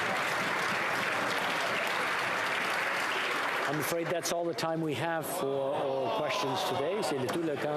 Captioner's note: applause